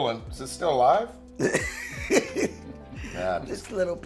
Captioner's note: laughs